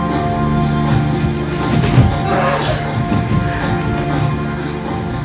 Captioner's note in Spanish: Gruñidos